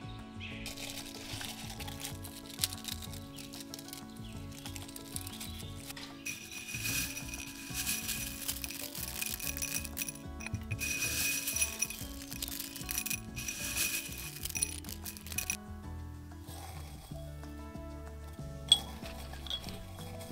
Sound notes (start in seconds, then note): 0.9 rose petals rustle; 5.3 dried oranges tinkle; 15.7 calenda rustles